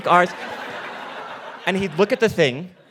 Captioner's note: audience laughing